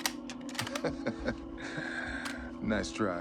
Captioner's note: Jackson laughs